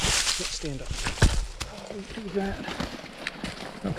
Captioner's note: leaves rustling